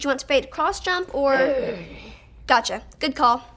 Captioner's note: Frank growls